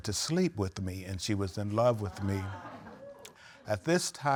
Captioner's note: audience exclaiming